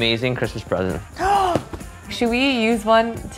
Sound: gasps

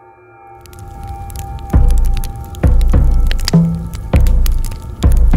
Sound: fire crackling

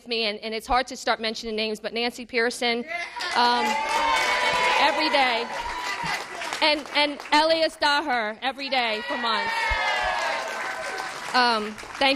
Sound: cheers and applause

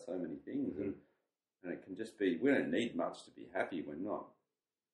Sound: none

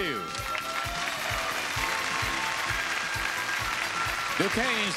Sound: audience clapping

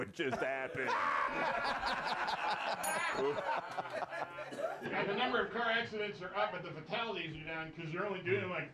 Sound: laughter; bell rings

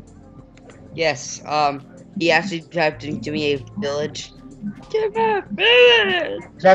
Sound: high Voice

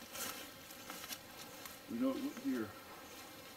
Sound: twigs snapping

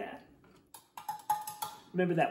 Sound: chopsticks tapping

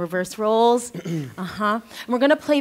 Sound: clears throat

